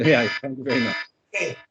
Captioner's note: alarm sounds